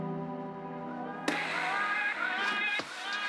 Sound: distant chatting; distant laughing; wheels spinning; upbeat music

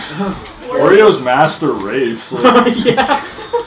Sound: laughs

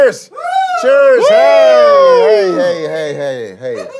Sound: members cheering

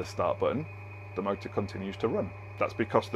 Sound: motor whirring

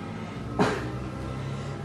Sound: exhales

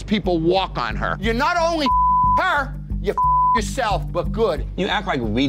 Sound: beep

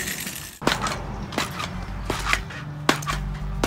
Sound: lively music; boinging

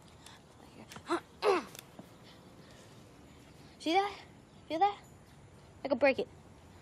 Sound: grunts

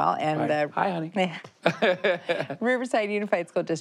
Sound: laughter

